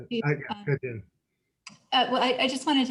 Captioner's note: murmurs